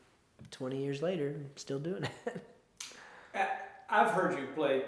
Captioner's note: chuckles